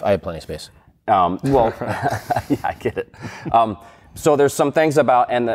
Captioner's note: laughs